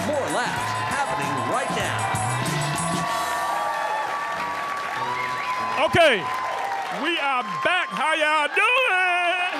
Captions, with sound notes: More laughs happening right now. (audience cheering) Okay, we are back, how y'all doing?